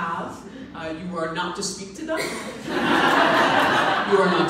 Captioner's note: audience laughs